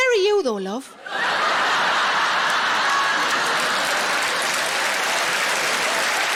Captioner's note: audience laughing and applauding